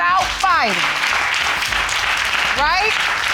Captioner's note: audience applauding